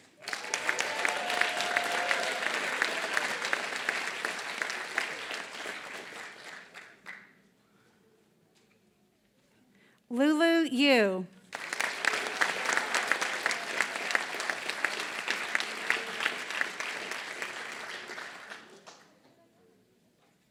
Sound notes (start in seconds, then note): 0.0 applause; 11.4 applause